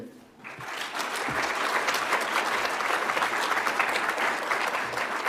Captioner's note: audience applauds